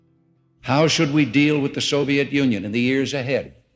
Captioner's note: soundbite of archived recording